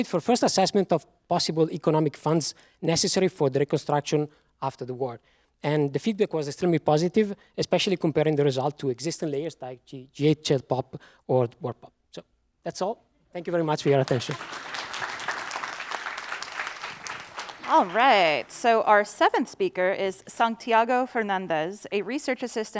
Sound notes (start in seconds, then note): 13.8 applause